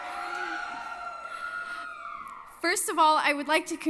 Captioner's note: cheering